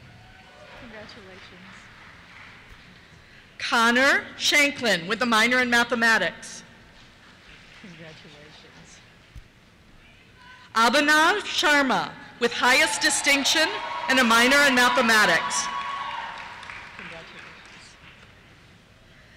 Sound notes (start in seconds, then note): 0.0 cheers; 6.7 applause; 12.5 cheers